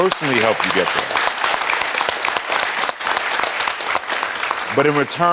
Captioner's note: audience applauding